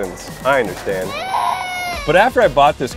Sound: baby crying

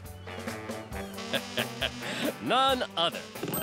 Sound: chuckling

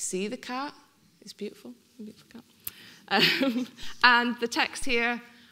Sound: laughing

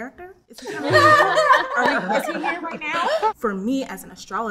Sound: people laugh

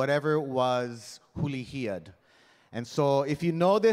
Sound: speaking in Hawaiian

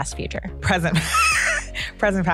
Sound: laughs

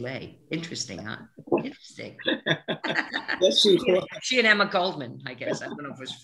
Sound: both laughing

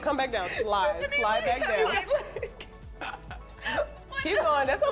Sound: laughter

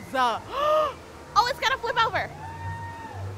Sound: gasps

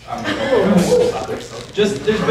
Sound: people murmuring; people laughing

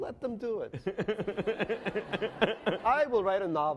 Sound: laughing

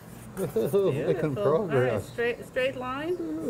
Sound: laughing

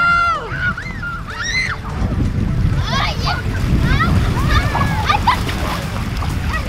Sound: girls laughing and screaming playfully

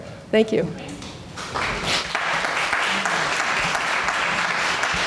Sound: audience members applaud

